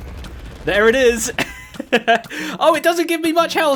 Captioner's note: totem explodes; laughs